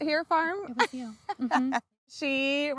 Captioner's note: laughs